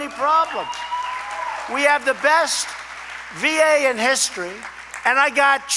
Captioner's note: applause